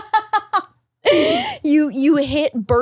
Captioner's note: laughs